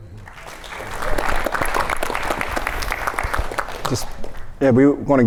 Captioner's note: audience applauds